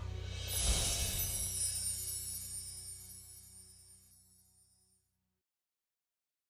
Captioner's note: Sookie barking; air whooshing; chimes tinkling